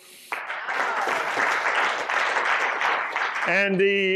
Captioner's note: applause